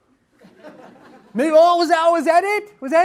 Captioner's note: audience laughs